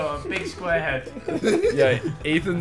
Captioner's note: laughing